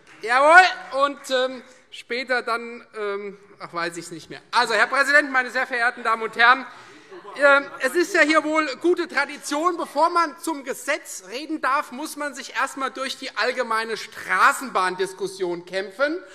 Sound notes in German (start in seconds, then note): 4.1 Heiterkeit